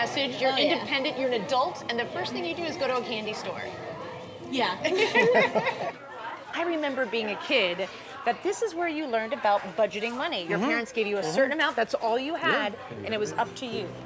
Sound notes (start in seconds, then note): 4.8 laughter